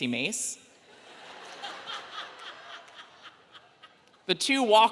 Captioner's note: audience laughing